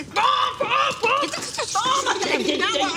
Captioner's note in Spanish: Imita sonido de ametralladora